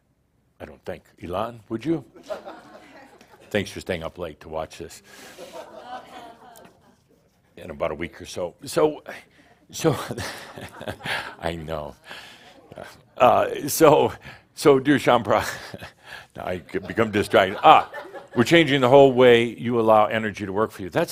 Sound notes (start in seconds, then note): 9.9 Adamus chuckles; 16.5 more chuckles